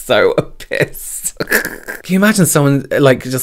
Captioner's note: laughs